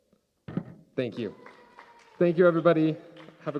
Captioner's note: cheers and applause